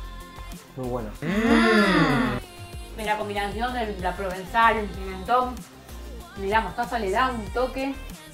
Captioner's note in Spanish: mmm